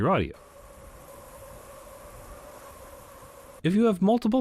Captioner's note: wind Sound Playing